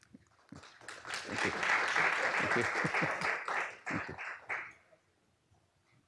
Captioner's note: applause